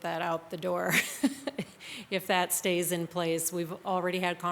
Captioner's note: laughs